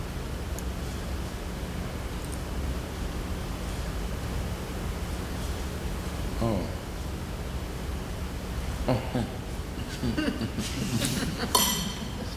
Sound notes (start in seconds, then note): 8.8 chuckling